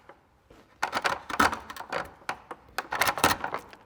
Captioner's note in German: Schabende Geräusche